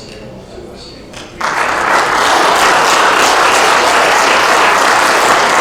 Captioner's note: applause